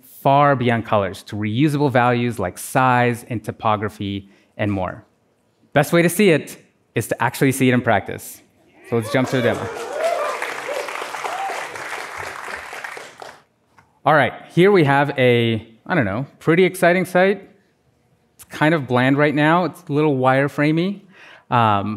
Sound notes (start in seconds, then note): 13.9 applause